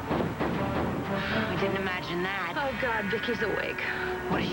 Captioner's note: thumping